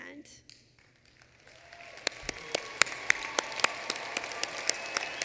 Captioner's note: applause